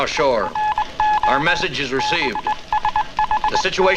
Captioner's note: telegraph beeping